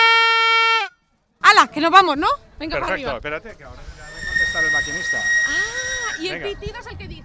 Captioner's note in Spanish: suena la trompetilla; suena silbido del tren